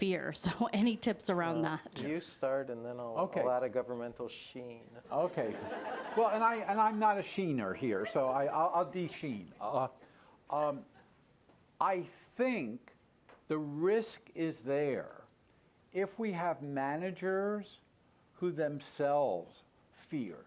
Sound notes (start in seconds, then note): 5.1 laughter